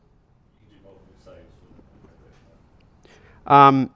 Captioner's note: voiceover